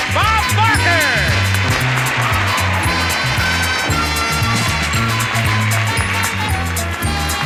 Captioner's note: audience applauding and upbeat music continues